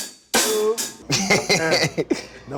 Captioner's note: laughing